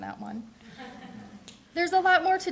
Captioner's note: audience laughing